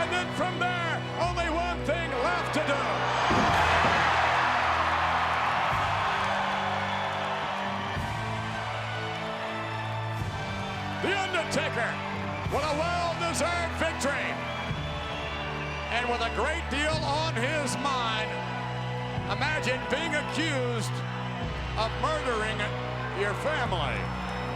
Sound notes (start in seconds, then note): 3.1 knees slamming; 3.7 crowd cheering; 5.5 ominous music continues